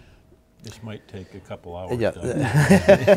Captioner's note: laughing